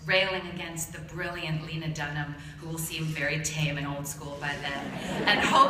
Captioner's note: laughter